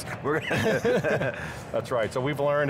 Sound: laughing

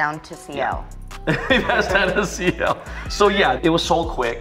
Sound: laughing

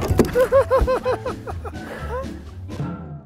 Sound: laughing

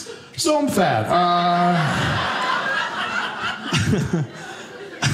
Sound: audience laughing

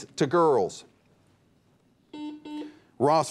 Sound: buzzer beeps

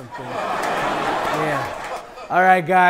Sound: people laughing

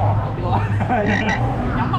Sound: laughing

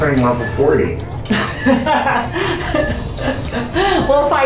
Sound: laughing

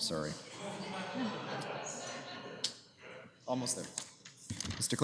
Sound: laughter

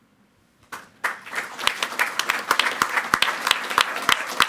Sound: audience clapping

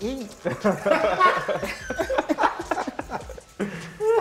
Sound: laughter

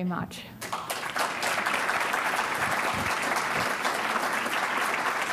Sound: audience applauds

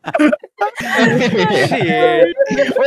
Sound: everyone laughing

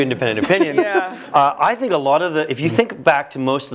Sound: laugh

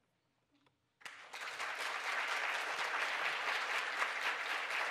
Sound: audience applauding

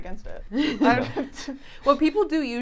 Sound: all chuckling

